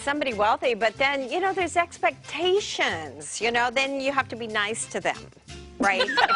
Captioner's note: laughter